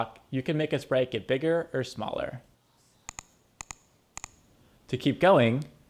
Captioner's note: clicking